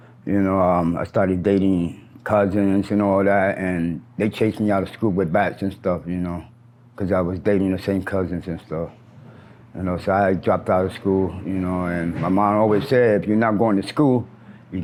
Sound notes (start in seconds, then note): none